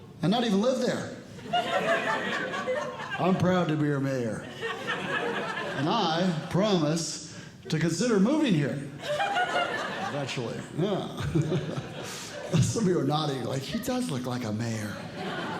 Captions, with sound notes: and not even live there. [Audience Laughing] I'm proud to be your mayor, and I promise to consider moving here eventually. Yeah. Some of you are nodding, like, he does look like a mayor.